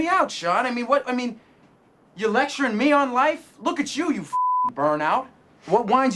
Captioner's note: beeping